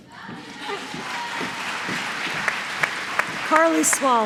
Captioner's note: applause